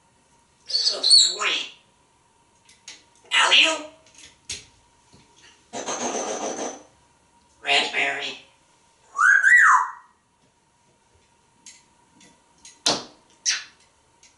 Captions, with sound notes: So sweet. Alley-oop! Pfffffff! Raspberry! [wolf whistling] [smooch]